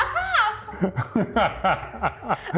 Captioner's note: laughing